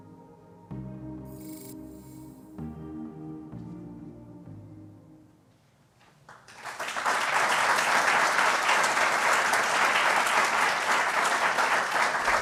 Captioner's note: applause